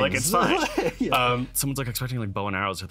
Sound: laughs

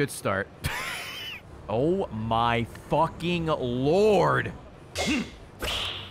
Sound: laughs

